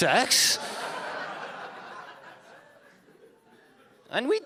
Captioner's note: audience laughing